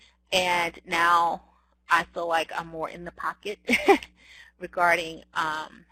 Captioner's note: giggles